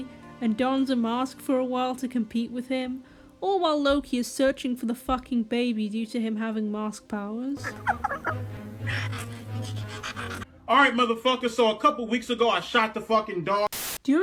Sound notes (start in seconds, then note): 7.6 evil dog chuckling, evil dog chuckling slowed; 13.7 TV static